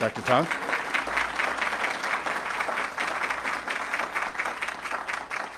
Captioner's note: audience clapping